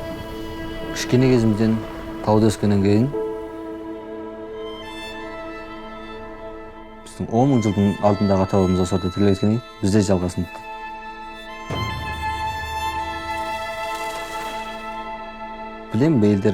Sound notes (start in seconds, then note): 1.3 man speaking Chinese: English translation on screen; 6.9 speaking Chinese: English translation on screen